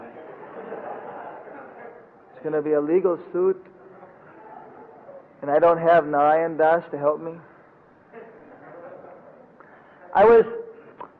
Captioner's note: devotees laugh